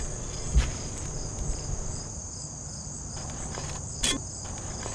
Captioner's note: dirt shuffling